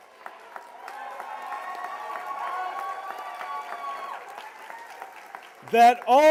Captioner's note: cheers and applause